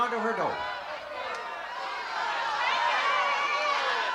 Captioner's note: audience yelling